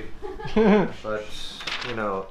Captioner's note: laughs